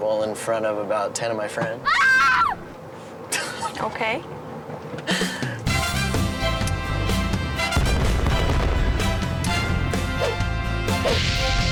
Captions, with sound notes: in front of about ten of my friends. (screaming woman) - Okay. (laughing) (upbeat music)